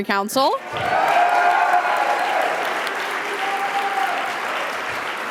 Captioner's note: audience applauding